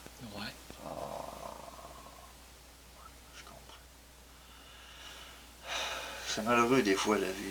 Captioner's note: sigh